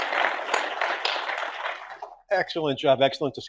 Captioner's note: audience applauding